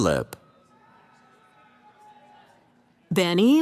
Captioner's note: cheering